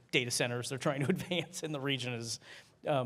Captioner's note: laughter